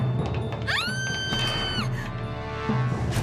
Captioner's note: screams